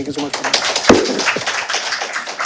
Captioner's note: applause